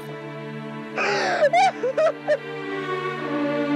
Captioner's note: Sobbing